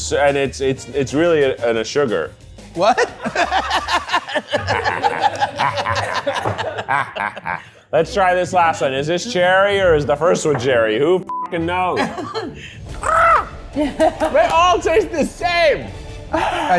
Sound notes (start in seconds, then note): 2.8 all laughing; 11.9 laughs; 13.0 squawks